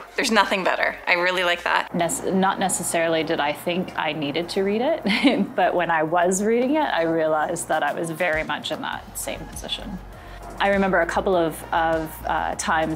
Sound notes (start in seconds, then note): 5.0 laughing